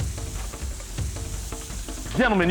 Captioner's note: meat sizzles